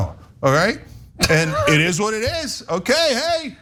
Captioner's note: laugh